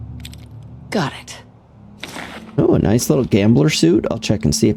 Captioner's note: camera clicks